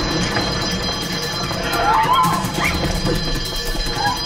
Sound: shouting; alarm Ringing

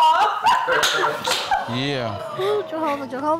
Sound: laughs

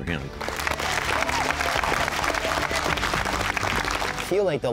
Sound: applause

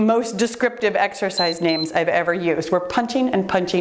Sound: timer beeps

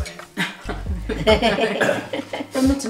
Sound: laughs

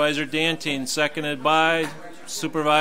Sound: overlapping chattering

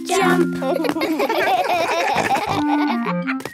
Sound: laughing

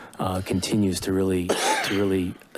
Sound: coughing in the background

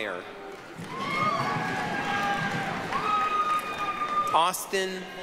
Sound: applause, cheering

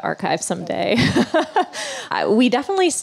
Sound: laughs

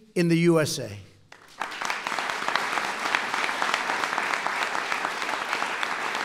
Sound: applause

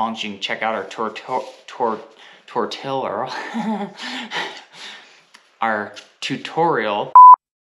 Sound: laughs

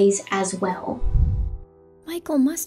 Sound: swoosh

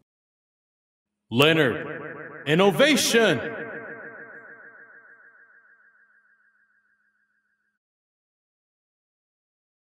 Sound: echos

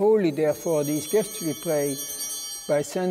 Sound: chimes ringing

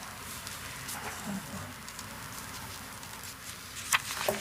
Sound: paper rustling

